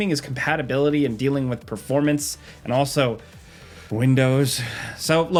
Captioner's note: sighs